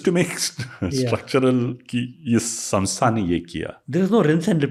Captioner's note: speaks in Hindi